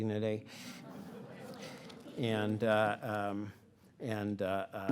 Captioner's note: audience laughing